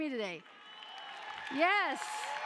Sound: cheering

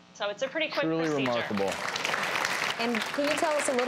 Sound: audience applauding

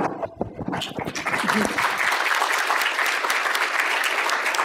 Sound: applause

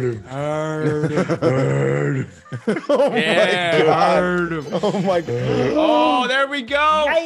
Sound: laugh

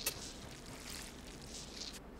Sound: footsteps

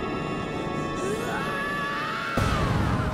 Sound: screaming

